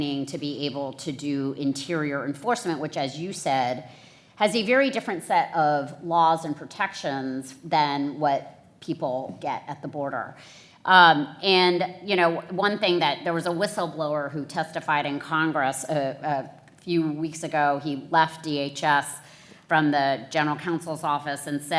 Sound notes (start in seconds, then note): none